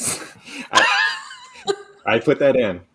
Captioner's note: laughter